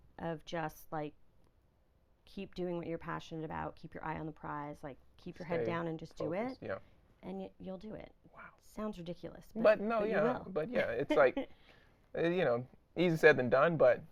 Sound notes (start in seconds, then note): 10.1 laughing